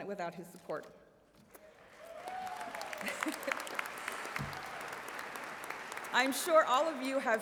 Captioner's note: applause